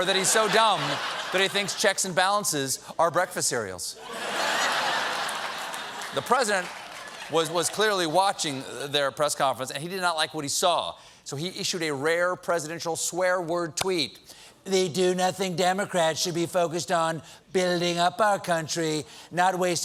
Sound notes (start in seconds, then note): 4.0 laughter; 4.5 applause